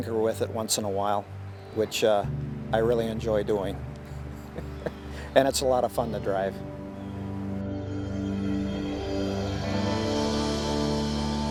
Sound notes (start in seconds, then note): 4.1 laughing; 8.1 gentle music continues